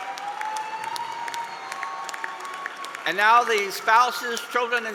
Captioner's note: applause